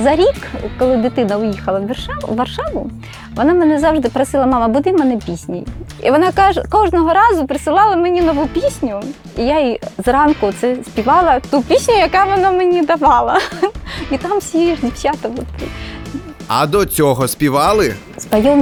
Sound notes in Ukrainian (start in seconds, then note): 16.9 аплодували